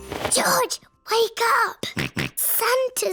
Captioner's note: snorts